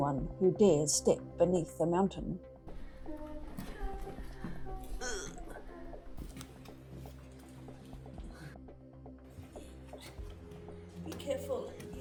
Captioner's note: ugh!